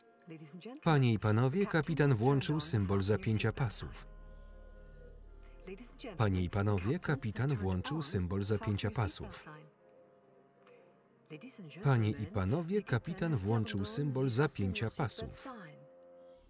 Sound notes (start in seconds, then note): 11.3 faux French accent